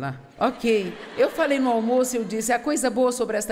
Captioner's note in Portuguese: audiência ri